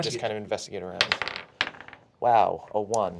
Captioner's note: dice bouncing